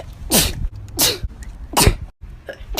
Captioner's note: sneeze; achoosdkjfoihf